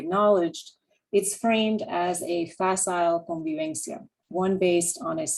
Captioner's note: spanish